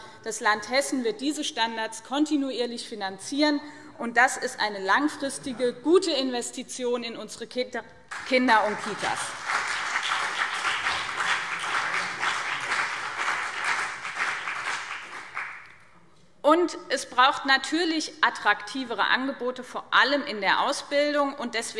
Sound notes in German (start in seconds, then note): 8.1 Beifall BÜNDNIS 90/DIE GRÜNEN und CDU